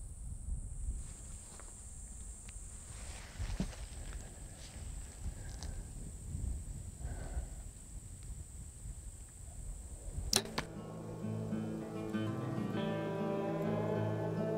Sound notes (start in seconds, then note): 10.2 arrow clicks; 10.6 gentle music